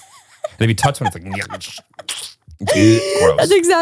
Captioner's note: squishing